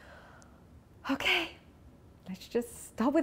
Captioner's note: inhales